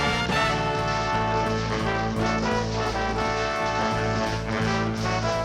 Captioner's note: blender grinding